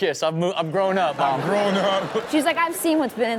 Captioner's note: laughs